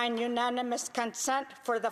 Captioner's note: speaking indigenous language